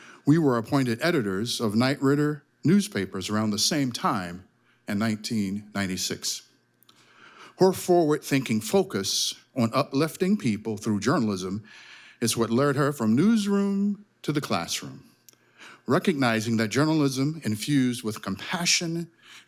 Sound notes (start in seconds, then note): none